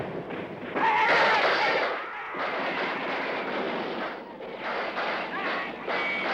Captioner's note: gunfire; shouting